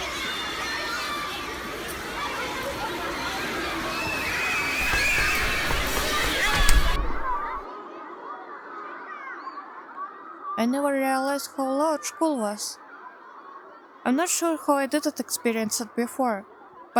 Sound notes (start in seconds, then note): 0.0 school break noise continiues; 3.4 running footsteps; 4.7 door closed